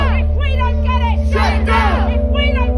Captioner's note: crowd